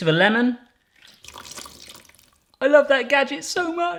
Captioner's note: splashing